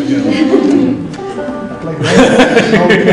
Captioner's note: laughter